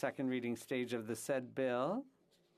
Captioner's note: speaking French